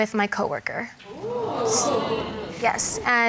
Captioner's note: audience exclaims